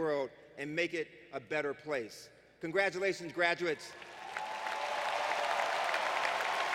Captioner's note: applause